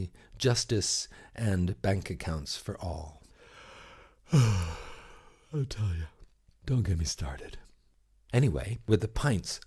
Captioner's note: yawn